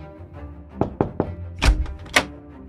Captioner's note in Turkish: Kapı çalınma sesi